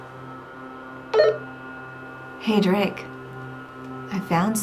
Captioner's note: walkie-talkie dings